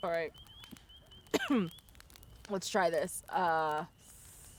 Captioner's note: coughs